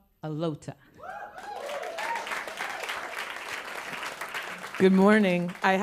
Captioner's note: applause